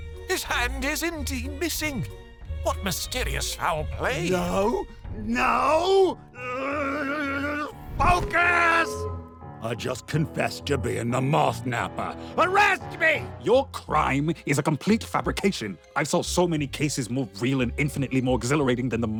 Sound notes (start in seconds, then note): 6.4 frustrated rage; 8.8 train horn